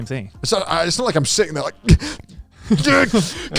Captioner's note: burps